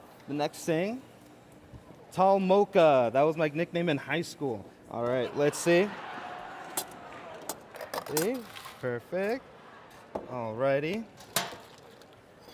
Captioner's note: cheers and applause